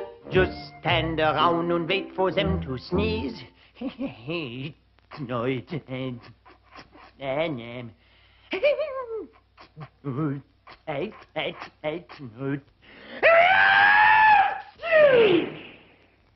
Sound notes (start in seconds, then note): 5.0 stammering; 14.7 loud sneezing